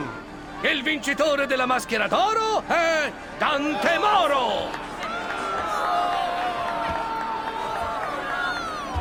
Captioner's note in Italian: some of the crowd cheers him and others boo